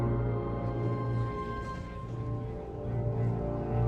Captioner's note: chattering